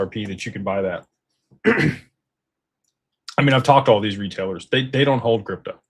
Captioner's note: clears throat